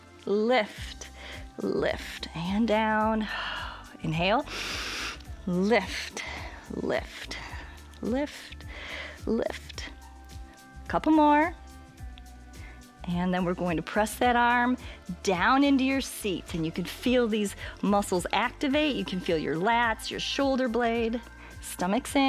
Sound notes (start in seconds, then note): 4.4 exhales; 4.4 inhales; 21.3 exhales